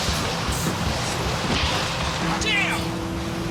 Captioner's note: gunshots popping